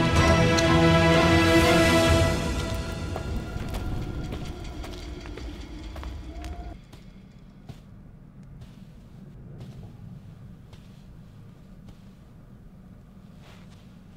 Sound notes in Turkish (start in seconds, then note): 5.0 Ayak sesi; 12.4 Sessizlik